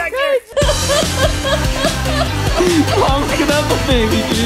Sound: laughs

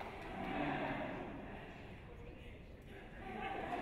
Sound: audience laughs

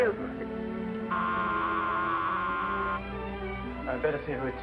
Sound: buzzer sounds

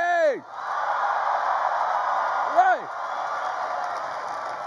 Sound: crowd cheers

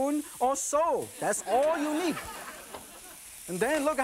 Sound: audience laughing

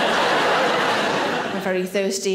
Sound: audience laughs

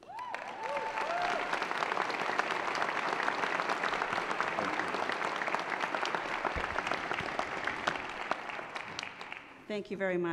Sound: applause

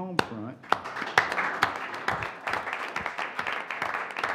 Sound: audience applauding

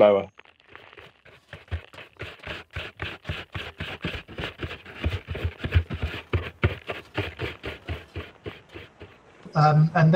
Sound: rough brushing

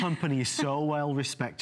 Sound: laughter

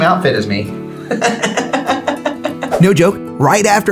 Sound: laughs

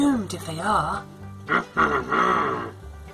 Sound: grumbling

